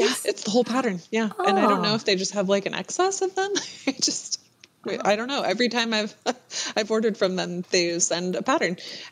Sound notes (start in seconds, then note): 3.7 laughs